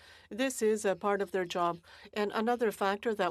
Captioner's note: speaking French